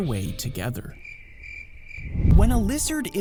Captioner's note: crickets chirping